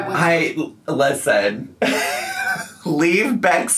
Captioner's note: laughs